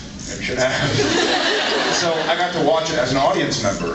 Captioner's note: laughs